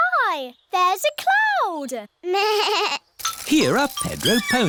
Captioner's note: bleats